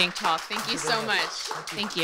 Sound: audience applauding

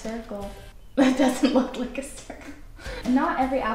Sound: laughs

